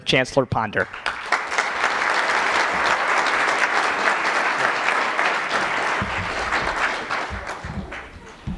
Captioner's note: applause